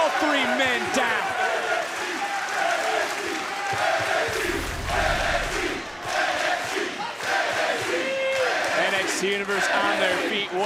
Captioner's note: crowd chants "nxt"